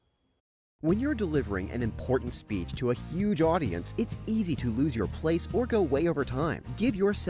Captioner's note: voiceover